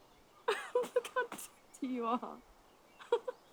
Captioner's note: laughs